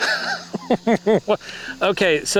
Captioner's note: laughs